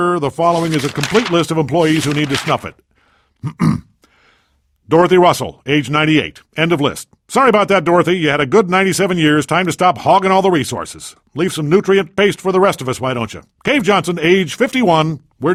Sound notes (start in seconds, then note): 4.9 coughs